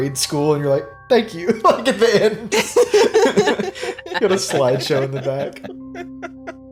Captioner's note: chuckles